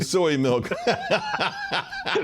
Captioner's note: laughter